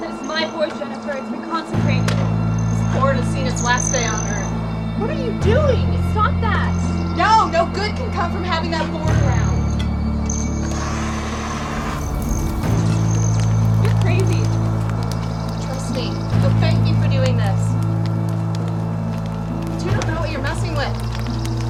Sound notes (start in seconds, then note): 10.8 gas hisses; 11.9 flames crackle